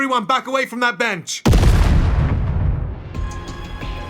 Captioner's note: explosion